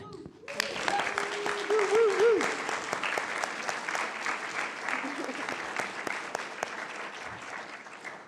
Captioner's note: applause